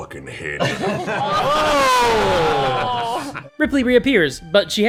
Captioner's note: laughter, groans